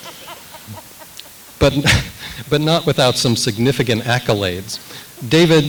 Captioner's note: laughs